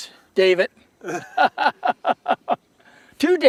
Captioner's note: laughter